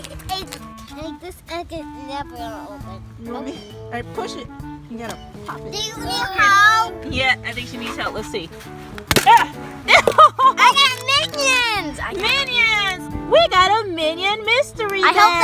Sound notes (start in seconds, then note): 4.0 voiceover; 7.2 voiceover; 9.0 plastic egg spitting; 12.1 voiceover